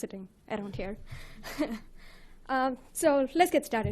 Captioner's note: chuckles